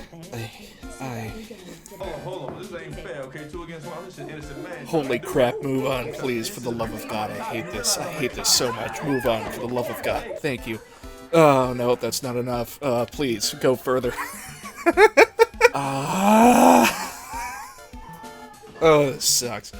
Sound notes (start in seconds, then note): 13.8 laughter; 14.8 wheezing; 17.6 laughter